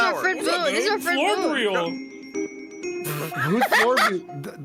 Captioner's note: laughs